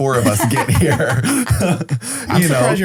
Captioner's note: laughs